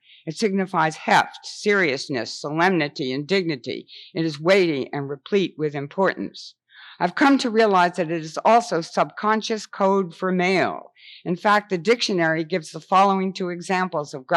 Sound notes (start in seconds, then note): none